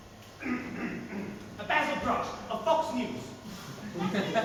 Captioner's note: clears throat loudly